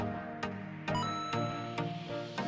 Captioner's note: ba ding!